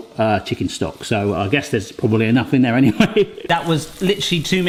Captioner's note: laughs